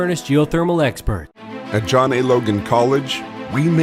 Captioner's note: voiceover